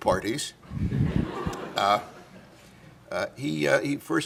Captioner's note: laughter